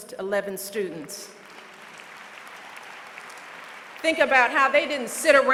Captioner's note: applause